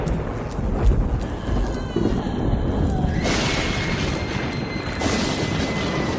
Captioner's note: thunder roars and crackles